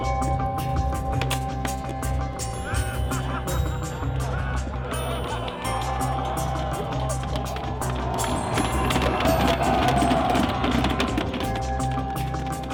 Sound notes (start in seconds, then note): 2.8 men laughing; 8.9 cheering